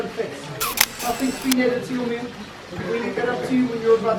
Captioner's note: camera shutter clicks